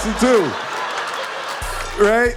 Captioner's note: audience laughing